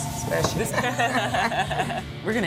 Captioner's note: laughs